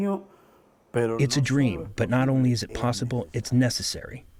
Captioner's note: through translator